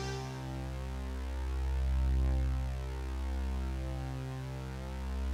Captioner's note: electronic hum